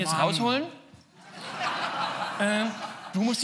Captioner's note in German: Publikum lacht